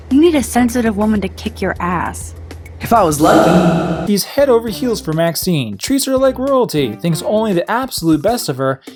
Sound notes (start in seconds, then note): 3.2 echoing